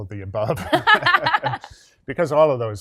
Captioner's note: both laugh